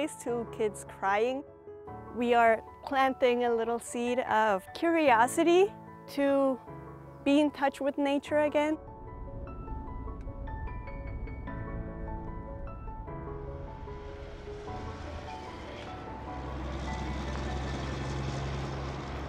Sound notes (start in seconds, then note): 9.4 hopeful piano music; 14.9 engine rumbles